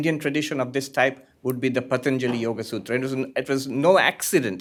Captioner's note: hindi